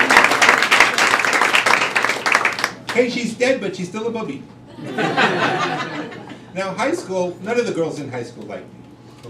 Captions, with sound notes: Hey, she's dead but she's still a bubbie. [crowd laughing] Now high school, none of the girls in high school liked me.